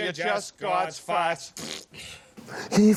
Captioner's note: both spitting